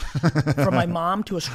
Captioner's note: laughs